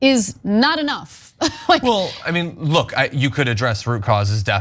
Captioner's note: laugh